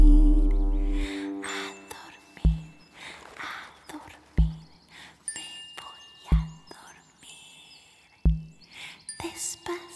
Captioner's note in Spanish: Susurrado